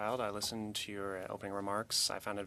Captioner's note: speaking French